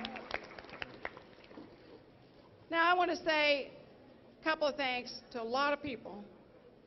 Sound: applause

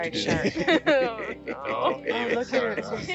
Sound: laughing

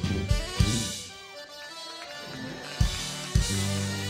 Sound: crowd cheering

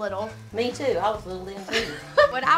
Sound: laughs

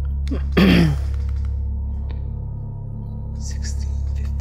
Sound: clears throat

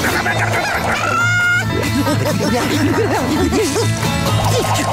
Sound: laughing

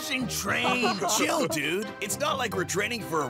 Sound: laughing

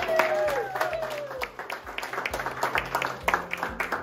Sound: cheering & clapping

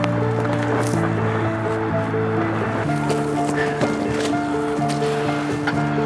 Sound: leaves underfoot crunching

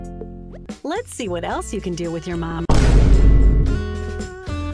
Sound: boom

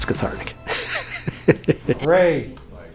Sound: laughter

